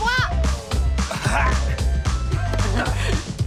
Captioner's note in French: grognements